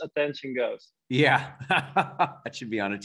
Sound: laughs

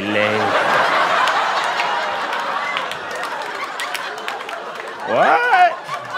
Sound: laughter

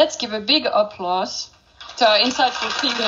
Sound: audience applauding

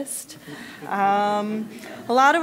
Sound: laughing

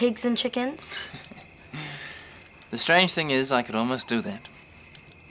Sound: chuckling

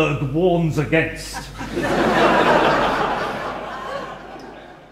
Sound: audience laughing

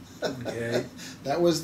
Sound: laughs

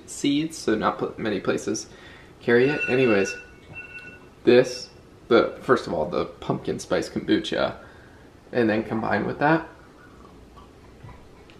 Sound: timer goes off

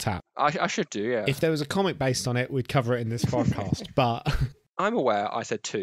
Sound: laughs

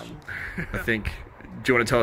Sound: chuckles

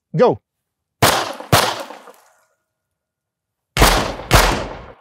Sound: gunfire popping

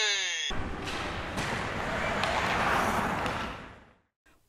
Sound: skates Clashing

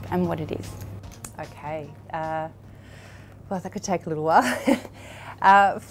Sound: laughs

